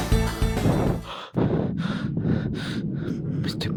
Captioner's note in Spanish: respiraciones pesadas